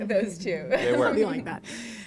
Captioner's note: laughter